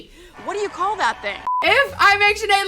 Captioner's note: laughs; beep